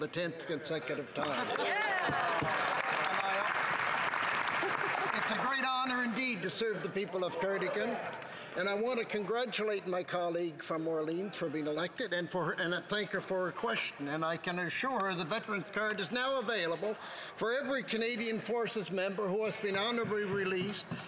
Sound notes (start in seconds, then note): 4.7 some Applause